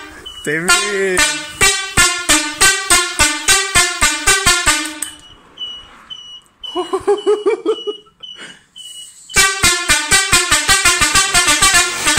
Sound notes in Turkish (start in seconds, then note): 6.7 acaip bir şekilde gülüyor